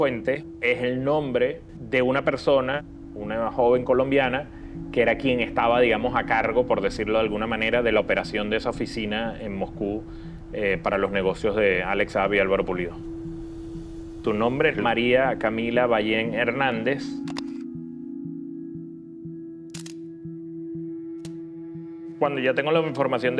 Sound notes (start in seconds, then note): 17.2 camera shutter clicks; 19.7 camera shutter clicks